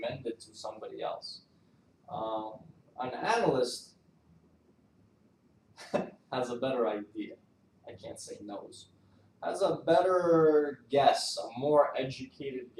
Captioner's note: laughs